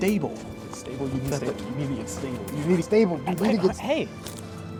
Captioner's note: nervous muttering